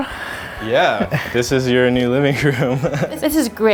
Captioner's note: laughs